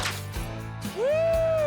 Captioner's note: gunshot